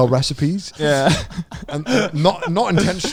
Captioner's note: laughs